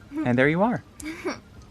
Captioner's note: giggles